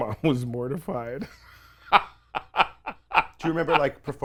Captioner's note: laughing